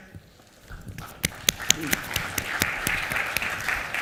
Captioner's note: applause